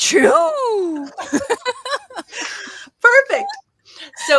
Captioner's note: laughter